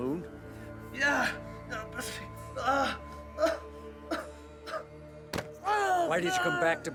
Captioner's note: GROANs